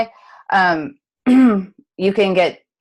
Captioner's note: clears throat